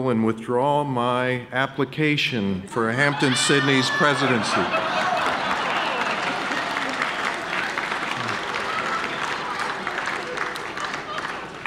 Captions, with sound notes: and withdraw my application for Hampden-Sydney's presidency. (audience laughing and clapping)